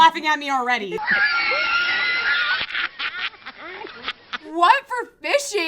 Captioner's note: woman laughing